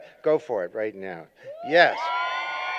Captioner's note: cheering